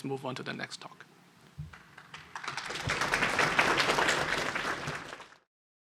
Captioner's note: applause